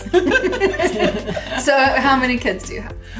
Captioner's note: all laughing